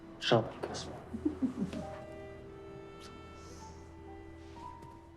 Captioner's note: Naomi laughs